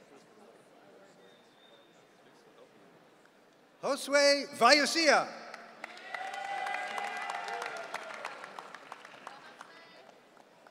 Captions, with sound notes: Josue Vallesia. (audience cheering)